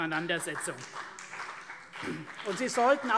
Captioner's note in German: Beifall CDU und BÜNDNIS 90/DIE GRÜNEN